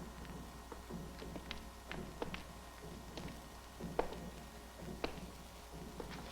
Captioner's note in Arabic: صوت خطوات قوية